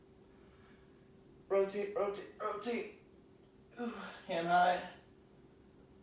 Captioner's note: exhaling